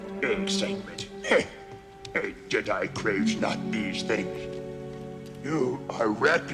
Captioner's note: scoffs